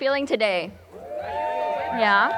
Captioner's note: crowd cheering